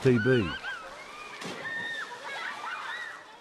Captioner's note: children laugh, squeal